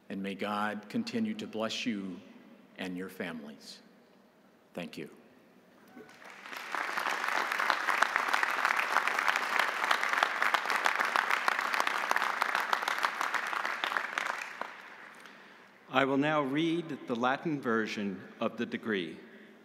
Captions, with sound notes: and may God continue to bless you and your families. Thank you. (audience applauding) - I will now read the Latin version of the degree.